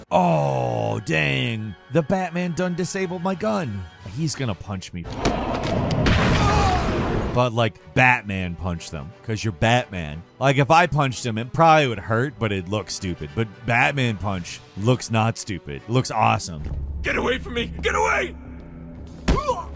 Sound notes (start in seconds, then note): 6.3 thug grunting; 19.3 thug grunting